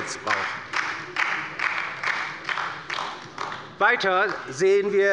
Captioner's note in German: Beifall bei der LINKEN